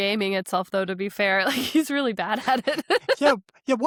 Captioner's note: chuckles; laughs